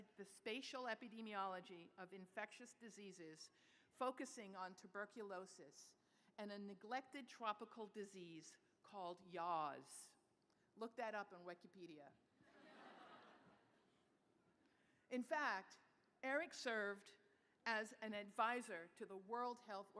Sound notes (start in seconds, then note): 12.4 laughter